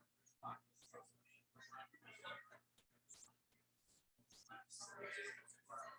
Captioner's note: people chattering indistinctly